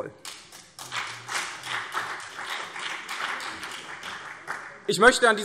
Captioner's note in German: Vereinzelter Beifall CDU und BÜNDNIS 90/DIE GRÜNEN